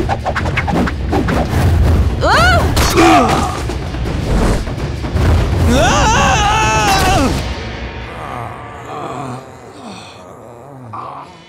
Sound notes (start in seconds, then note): 2.8 grunting; 5.6 screaming; 8.0 moaning